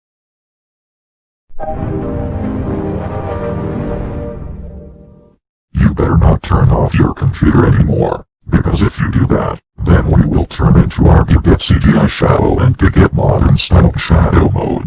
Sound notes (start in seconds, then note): 1.5 3D Shadow Windows XP Startup Sound